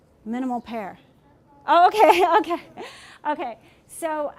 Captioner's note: speaking from off mic